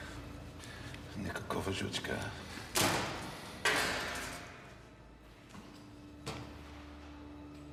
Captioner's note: russian agent speaking in foreign language